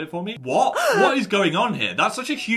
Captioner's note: person gasps